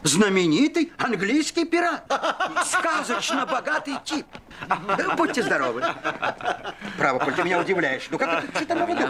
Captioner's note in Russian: смех